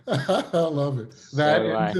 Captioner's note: laughs